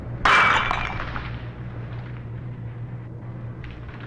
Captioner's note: light bulb breaks